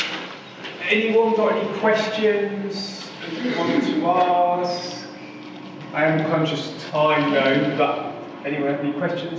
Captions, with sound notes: - [Voiceover] Anyone got any questions, if you want to ask? I am conscious of time...